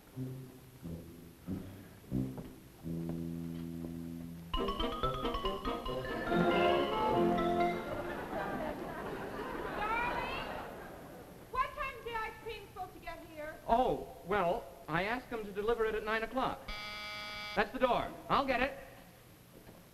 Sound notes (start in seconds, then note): 8.3 audience chuckles; 16.6 door buzzer